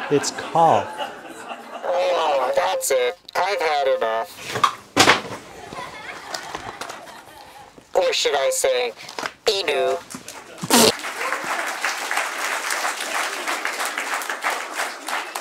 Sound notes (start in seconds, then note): 5.5 laughter; 10.9 laughter and applause